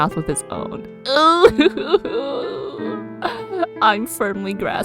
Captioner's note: struggling noises